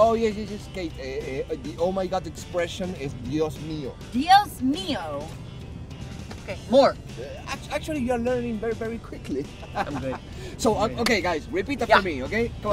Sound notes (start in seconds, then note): 9.4 laughing